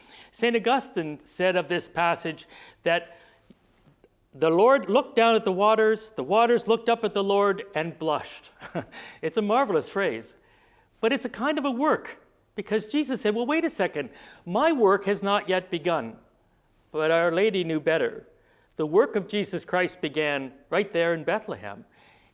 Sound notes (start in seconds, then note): 8.6 chuckling